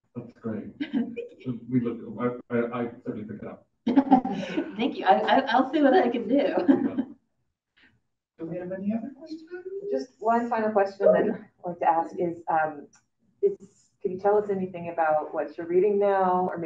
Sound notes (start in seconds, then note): 3.9 audience laughing; 7.7 laughs